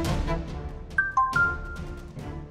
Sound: phone beeps

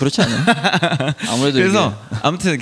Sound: laughs

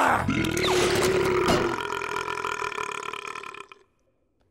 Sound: burping loudly

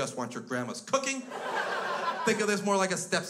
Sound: crowd laughs

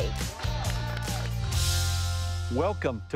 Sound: crew cheering

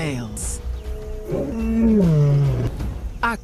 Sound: groans

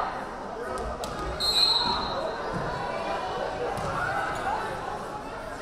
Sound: whistle blaring

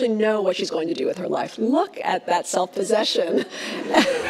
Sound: laughs

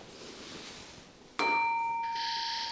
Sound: clang

